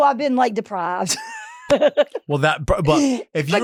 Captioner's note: Marguerite laughing